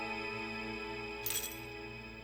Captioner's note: dog tags rattle